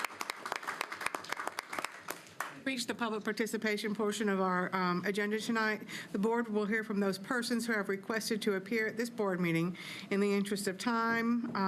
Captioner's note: applause